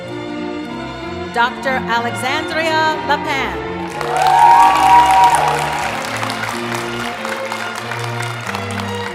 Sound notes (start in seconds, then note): 3.0 cheering; 7.2 applause and music